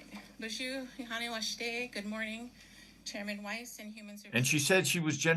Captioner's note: speaking Native language